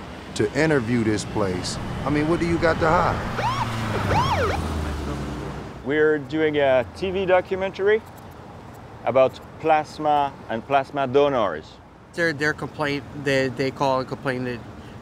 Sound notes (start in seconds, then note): 3.7 police sirens wailing